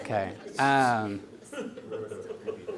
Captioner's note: audience laughing